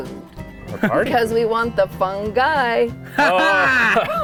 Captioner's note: laughter